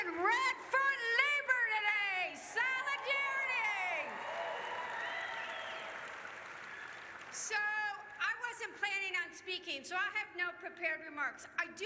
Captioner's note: cheers